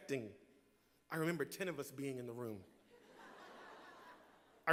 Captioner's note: laughter